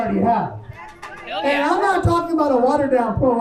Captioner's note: crowd cheers